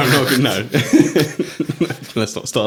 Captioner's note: laughing